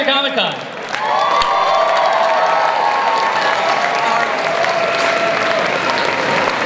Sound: cheering, applause

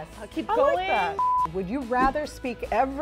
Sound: beeping noise

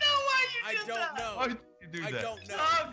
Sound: laugh

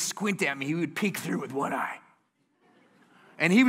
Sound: laughter

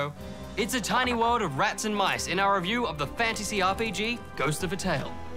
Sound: none

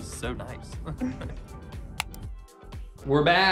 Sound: both laugh

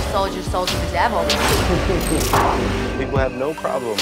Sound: man chuckling

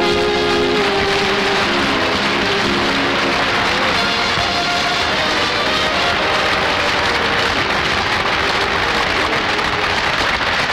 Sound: audience Applauding

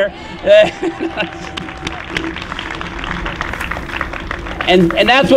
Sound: applause

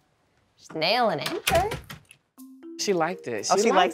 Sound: door closes

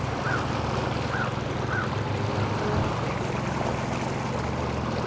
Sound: boat engine purring

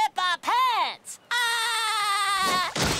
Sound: laughing

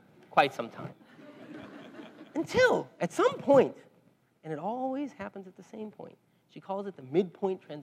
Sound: laugh

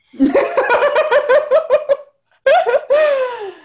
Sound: laughs

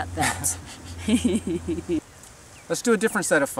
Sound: laughs

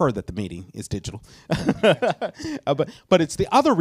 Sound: chuckles

